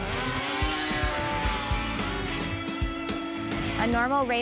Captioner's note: snowmobiles revving